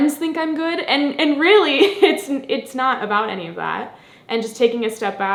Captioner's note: laughs